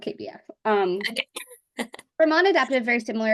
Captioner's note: laughs